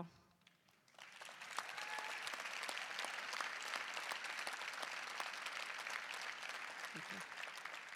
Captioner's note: applause